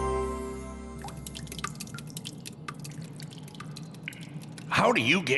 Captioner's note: dripping